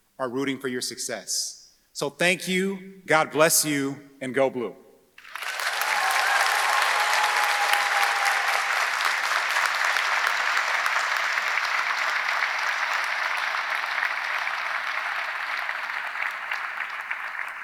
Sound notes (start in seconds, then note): 5.2 audience applauding; 5.2 audience cheering